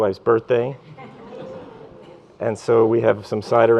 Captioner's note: laughter